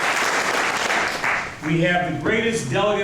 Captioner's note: applause